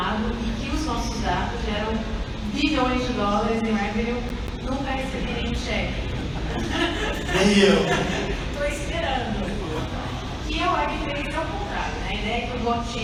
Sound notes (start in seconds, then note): 6.0 laughs; 9.1 laughter